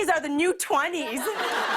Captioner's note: laughter